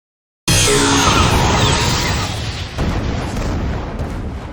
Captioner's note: explosion booming